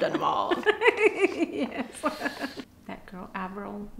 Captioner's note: laughing